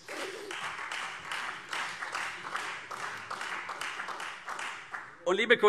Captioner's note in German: Beifall CDU und Freie Demokraten